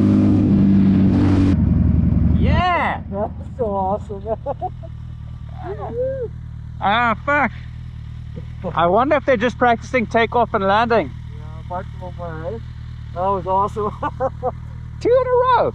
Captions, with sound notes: Yeah. - That was so awesome. (laughing) - Ah, fuck. I wonder if they're just practicing takeoff and landing. - That was awesome. (laughing) - Two in a row.